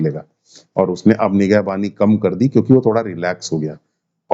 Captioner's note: nasal sound